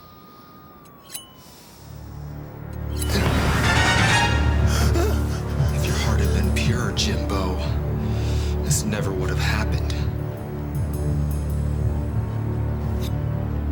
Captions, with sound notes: (ominous music) (gasps) (dramatic crescendo) - If your heart had been purer, Jimbo, this never would've happened.